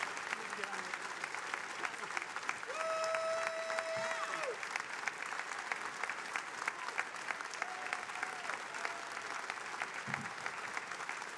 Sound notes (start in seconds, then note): 3.8 attendees applauding